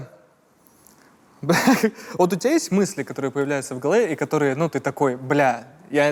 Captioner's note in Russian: смеется